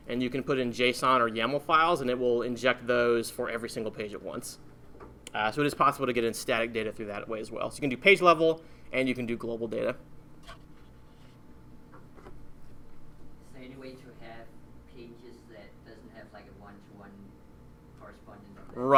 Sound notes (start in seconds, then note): 13.6 voiceover